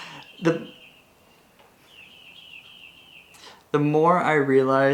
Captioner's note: birds chirping